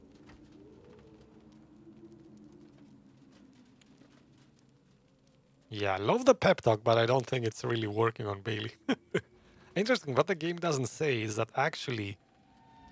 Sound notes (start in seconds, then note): 8.6 laughs